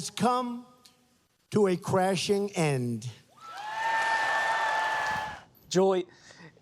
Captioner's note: cheers, applause